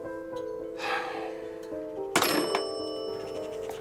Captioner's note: menghela nafas